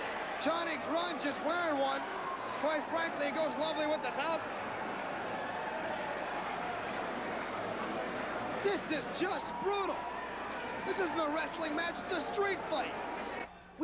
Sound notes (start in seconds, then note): 6.1 crowd cheering